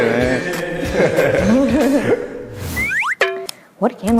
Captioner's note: laughing